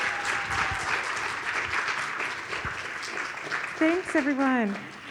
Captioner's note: audience applauds